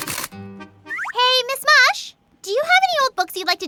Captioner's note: none